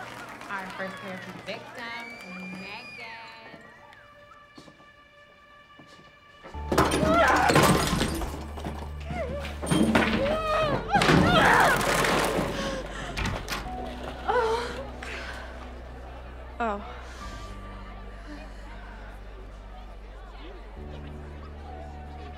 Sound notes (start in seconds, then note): 2.3 synth mood music; 7.3 lamp crashing; 10.4 table flipping; 14.4 Riley crying; 17.6 party chatter from outside the room